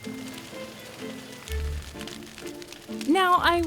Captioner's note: flames crackling; curious orchestral music